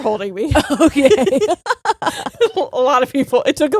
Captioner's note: both laughing